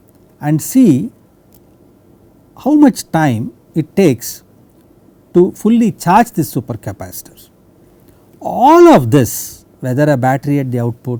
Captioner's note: click